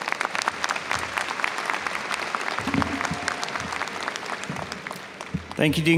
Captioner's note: audience applauds